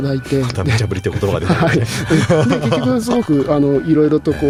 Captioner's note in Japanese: 笑い